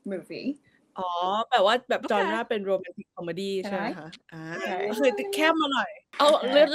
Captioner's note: in Thai